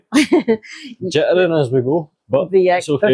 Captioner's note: laughs